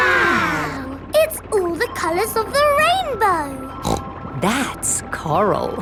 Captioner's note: snorts